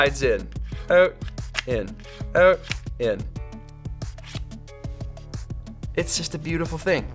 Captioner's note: swiping and clicking sounds